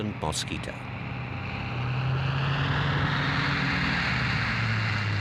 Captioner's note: plane roaring